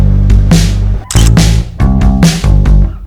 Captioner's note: photo click